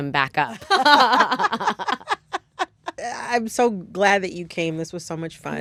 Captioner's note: laughter